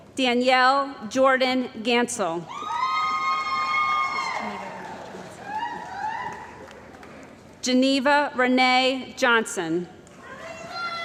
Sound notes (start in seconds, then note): 2.6 cheering & Applause